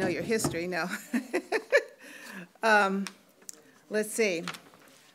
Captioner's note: laughs